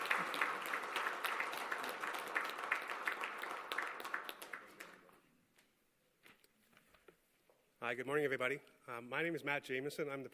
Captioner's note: applause